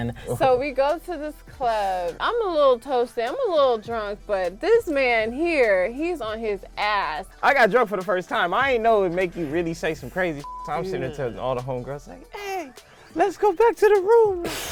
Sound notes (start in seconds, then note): 10.4 beep